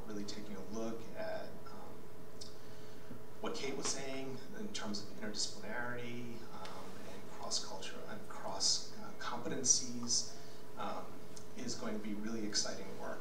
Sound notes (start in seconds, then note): none